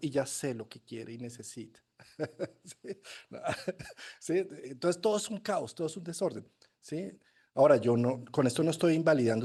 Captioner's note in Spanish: risas